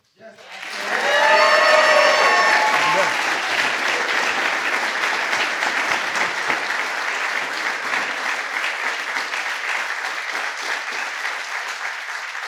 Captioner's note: applause